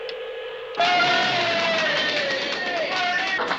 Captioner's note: cheering